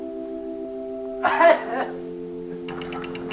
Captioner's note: choking intensifies